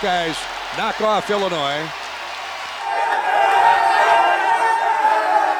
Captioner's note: cheering